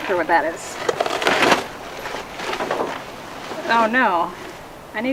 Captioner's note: ripping noise; clanking